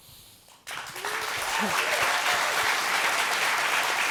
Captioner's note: applause